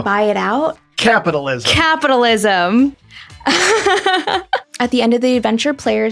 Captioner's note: chuckles